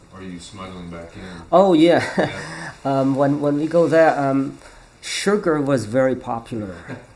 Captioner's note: laughs